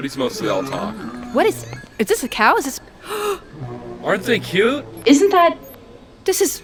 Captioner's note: gasps